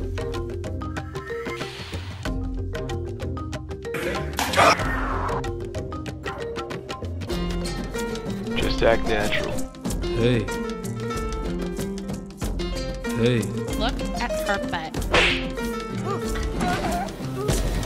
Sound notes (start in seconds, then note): 10.2 very manly tone; 13.2 very manly tone; 15.1 smack